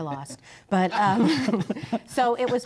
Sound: laughs

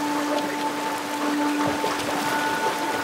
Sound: heavy rain sounds

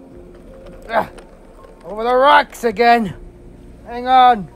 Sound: none

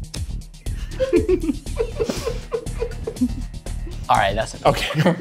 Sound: audience laughs

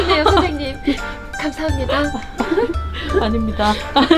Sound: laugh; laugh

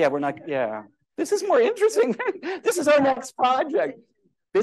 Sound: laughter

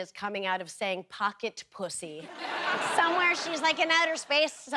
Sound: audience laughter

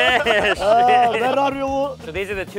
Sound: speaks in foreign language

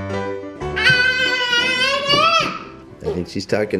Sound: happy piano music; shouting

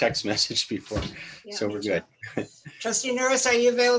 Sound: laughter

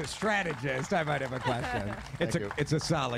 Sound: cheers and applause

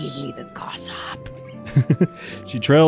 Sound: giggles

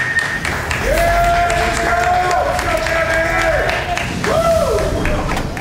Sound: crowd clapping and cheering

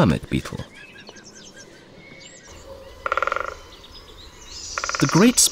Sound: sounds of nature

